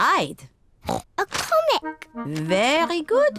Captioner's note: oinks